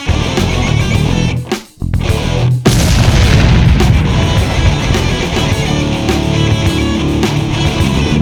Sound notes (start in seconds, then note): 2.6 flames whoosh